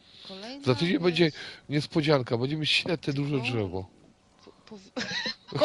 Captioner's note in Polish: śmiech